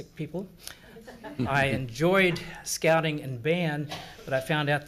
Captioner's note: assembly laughs